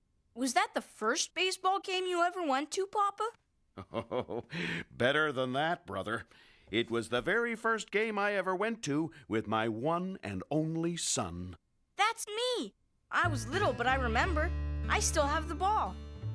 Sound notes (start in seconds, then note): 3.7 chuckling